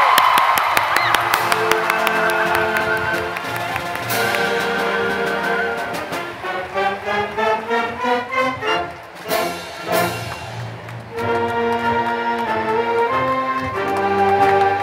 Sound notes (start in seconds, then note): 0.0 applause; 3.2 applause and music playing